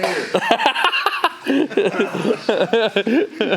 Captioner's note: Destin laughs